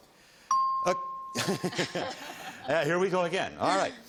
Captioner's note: laughter